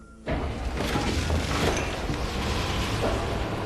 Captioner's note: machine rumbling